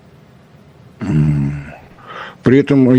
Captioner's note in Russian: откашливается